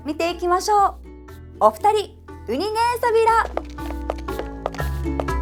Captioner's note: in Okinawan